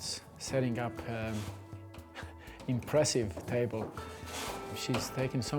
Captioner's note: chuckles